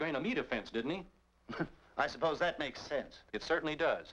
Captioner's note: chuckles